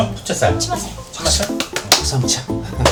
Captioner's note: clap